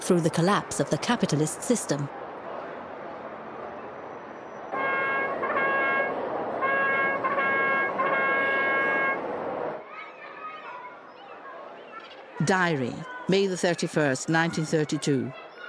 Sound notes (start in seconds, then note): 4.9 horn playing; 9.9 seagulls squawking